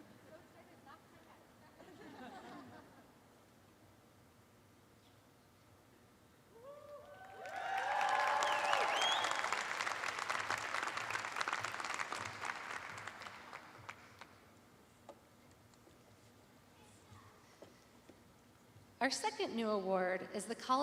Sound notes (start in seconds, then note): 7.0 applause